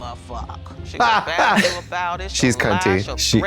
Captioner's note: blonde Women cluck